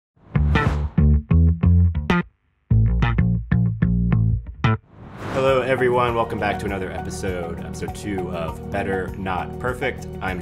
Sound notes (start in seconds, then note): 0.3 logo whooshes; 2.7 upbeat guitar music